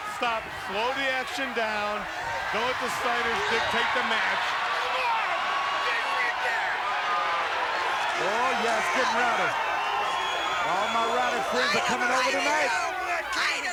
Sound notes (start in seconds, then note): 3.2 crowd cheering; 4.7 person yelling